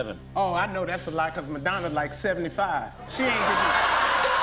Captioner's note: laughter